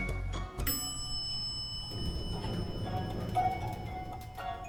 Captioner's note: elevator dinging; upbeat music